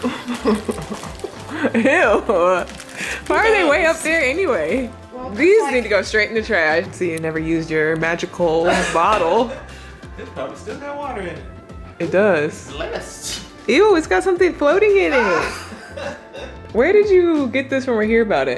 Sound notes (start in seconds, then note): 0.0 laughing; 8.4 laughing; 10.6 murmurs; 15.0 laughing